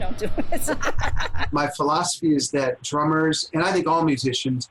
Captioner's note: laughs